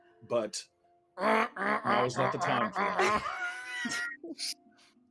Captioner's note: imitating a Griffin; group laughing